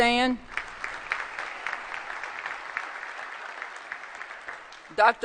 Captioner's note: applause